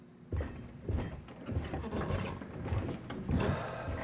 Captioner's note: footsteps thumping; Jason sighs